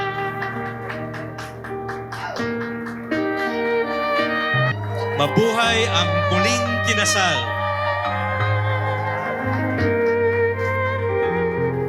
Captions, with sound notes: LONG LIVE THE REMARRIED COUPLE! [CHEERS] [APPLAUSE]